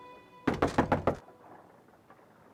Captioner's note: knocking